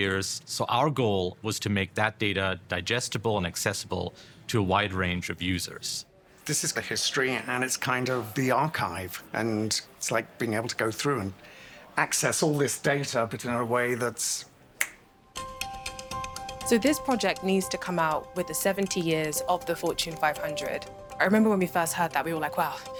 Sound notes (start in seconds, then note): 14.8 fingers snapping; 15.4 suspenseful music